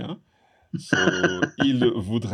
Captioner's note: laughs